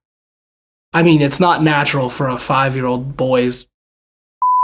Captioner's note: beep